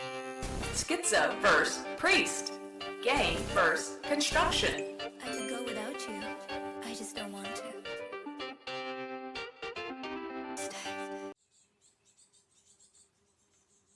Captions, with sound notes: schizo versus priest gang versus construction [ding, chime]